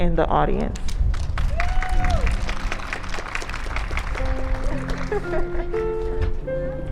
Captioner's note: applause, cheers and ♬♬ piano ♬♬